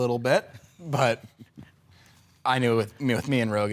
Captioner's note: soft chuckling